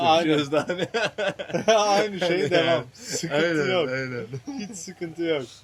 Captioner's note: laughs